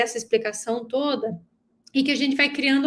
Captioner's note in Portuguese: none